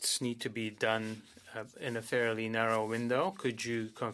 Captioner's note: speaking French